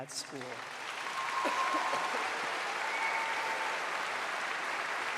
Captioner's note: applause